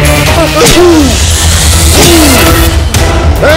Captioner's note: Stabbing knife